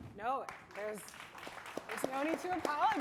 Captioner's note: audience applauding